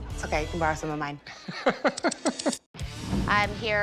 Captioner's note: laughs